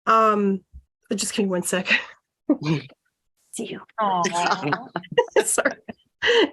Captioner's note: laughter